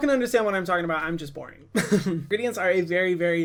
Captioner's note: chuckles